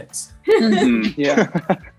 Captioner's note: Jessie laughs